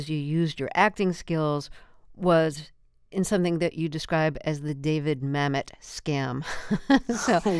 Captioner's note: laughter